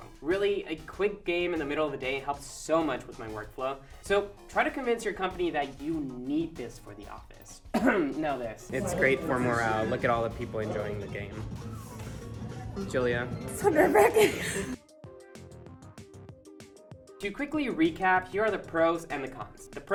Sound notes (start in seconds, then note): 7.7 fakes a cough; 16.4 laughs